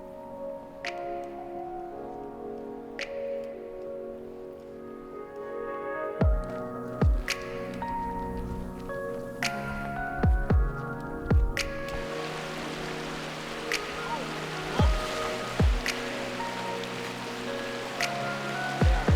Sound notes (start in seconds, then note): 12.2 water rushing